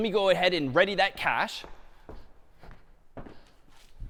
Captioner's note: footsteps